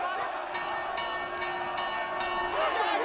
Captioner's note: ringing bell; shouting continues